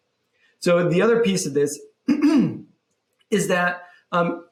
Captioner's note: clears throat